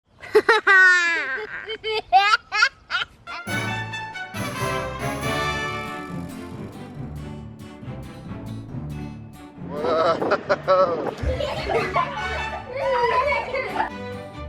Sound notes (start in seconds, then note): 0.2 laughter; 4.0 orchestral music